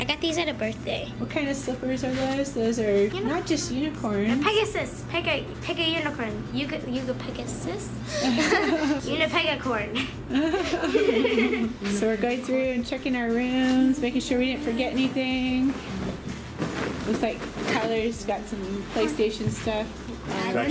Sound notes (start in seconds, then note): 9.9 laughing